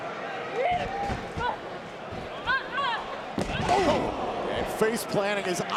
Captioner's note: wrestlers grunt